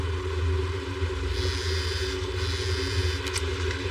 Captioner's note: celell phone bubuzzes